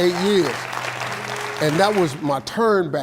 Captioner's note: audience applauding